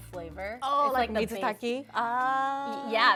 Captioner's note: speaks Japanese